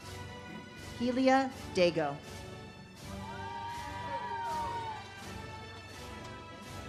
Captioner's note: audience cheers